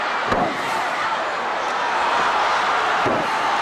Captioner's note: body thuds; crowd cheers